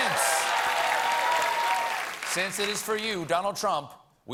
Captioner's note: cheers and applause